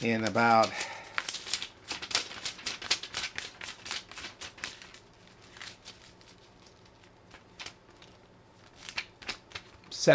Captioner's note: page flips